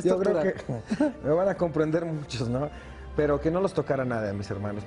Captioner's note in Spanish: risas